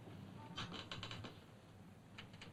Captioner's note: chair creaks